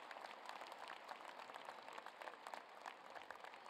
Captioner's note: applause